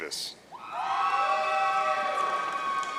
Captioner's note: audience cheering